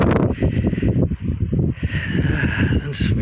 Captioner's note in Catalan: Esbufega